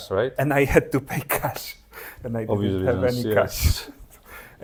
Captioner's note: laughs